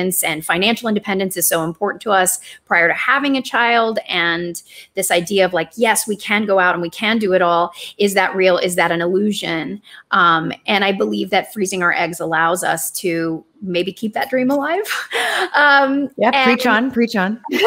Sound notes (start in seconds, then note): 15.4 chuckles